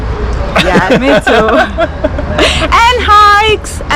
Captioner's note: laugh